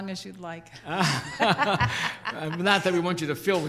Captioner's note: group laughing